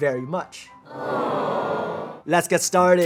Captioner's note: crowd awing